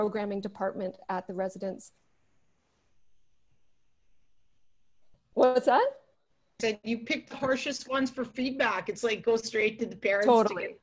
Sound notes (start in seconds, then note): 1.9 silence